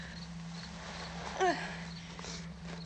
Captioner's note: sigh